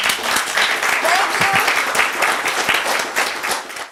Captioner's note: applause